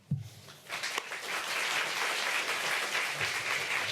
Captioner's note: applause